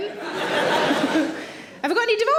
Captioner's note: audience laughs; laughs